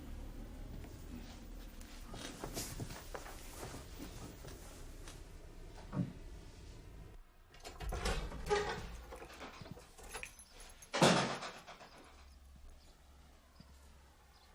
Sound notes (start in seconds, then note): 7.5 door opens, closes